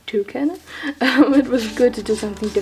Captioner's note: laughs